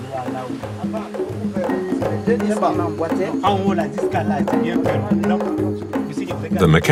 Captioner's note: foreign language